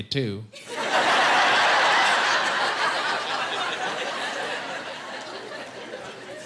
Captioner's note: laughing